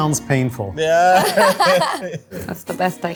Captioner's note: group laughing